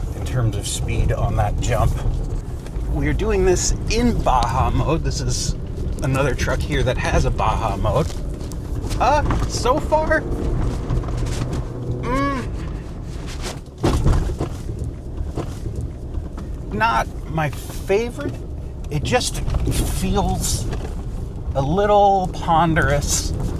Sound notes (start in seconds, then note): 13.8 truck thuds